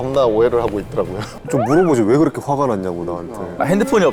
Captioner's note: sighs